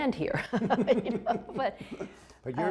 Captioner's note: laughter